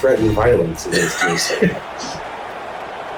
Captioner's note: crowd Noises